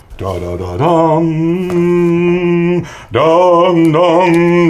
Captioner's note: humming